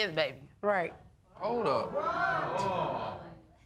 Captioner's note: audience gasping